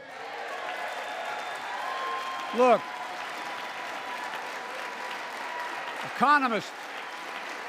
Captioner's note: applause